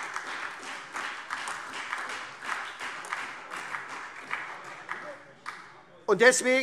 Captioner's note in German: Beifall SPD, Freie Demokraten und vereinzelt AfD